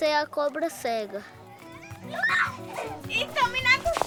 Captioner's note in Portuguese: risos